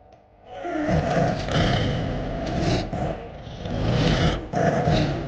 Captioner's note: creature snarling